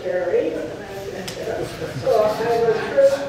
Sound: tentative laughter

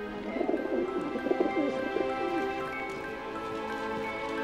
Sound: doves cooing; pleasant music

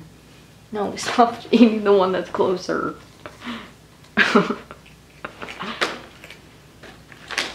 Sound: laughing

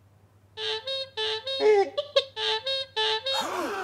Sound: horn honking; audience gasping

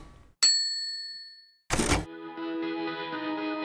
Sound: typewriter ding; light music

